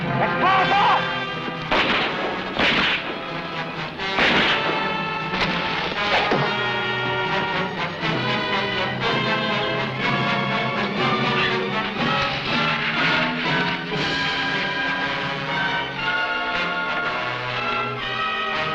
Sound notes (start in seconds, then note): 1.5 gunshots blasting; 6.1 arrow whooshing; 10.9 tense music